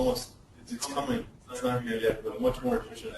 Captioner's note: distorted speech